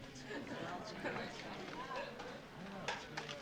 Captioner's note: indistinct chatter